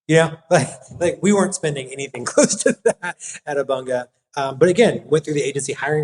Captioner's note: laugh